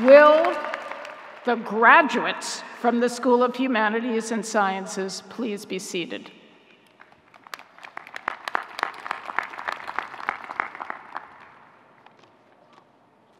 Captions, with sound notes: - Will the graduates from the School of Humanities and Sciences, please be seated. (audience clapping)